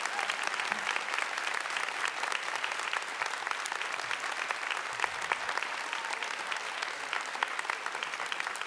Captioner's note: applause